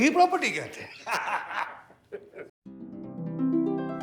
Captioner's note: guffaws